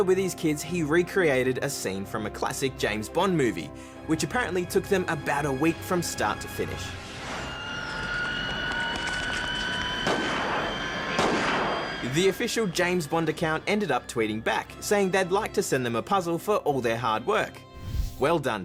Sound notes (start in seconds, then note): 11.1 gunshots